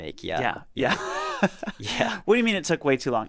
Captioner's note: chuckles